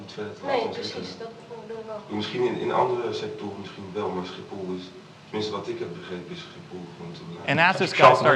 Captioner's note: foreign language